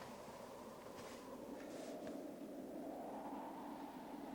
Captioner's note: wind howling